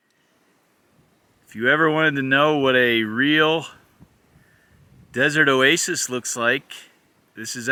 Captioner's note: rustling grass, bird calls